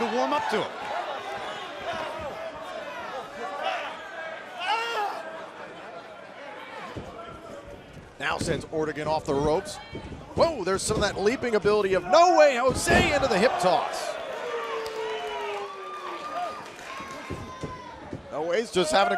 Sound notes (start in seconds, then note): 2.3 crowd chatter; 15.4 crowd cheering